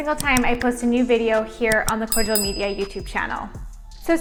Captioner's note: bell dings